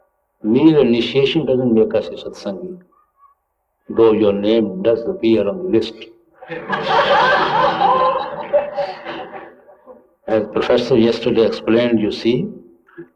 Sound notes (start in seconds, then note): 8.9 laughter